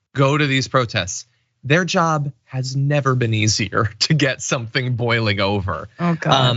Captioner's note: laugh